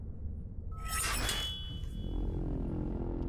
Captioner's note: blade clinks; deep tense music